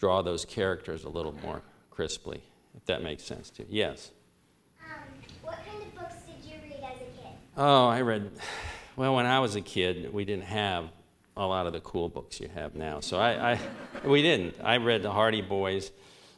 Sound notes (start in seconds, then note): 8.4 sighs